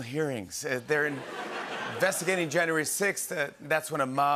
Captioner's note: laughter